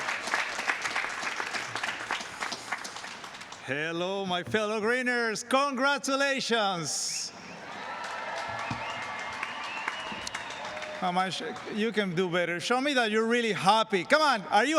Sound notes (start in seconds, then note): 7.6 cheers and applause